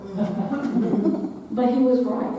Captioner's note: audience laughing